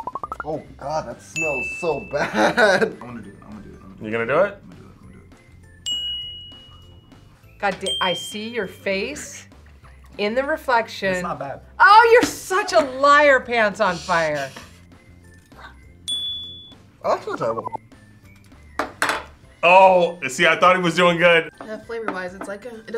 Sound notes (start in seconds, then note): 2.2 laughs; 5.8 bell rings; 16.0 bell rings